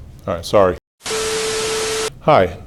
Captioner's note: television test tone & static